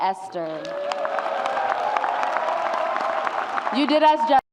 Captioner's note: audience cheers